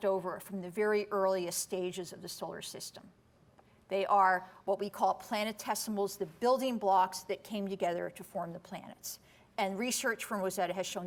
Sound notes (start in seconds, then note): none